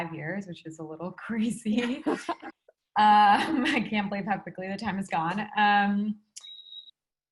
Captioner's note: laugh